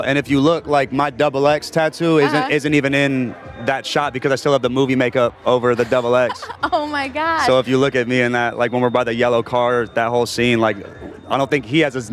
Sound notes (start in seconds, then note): 5.8 laughs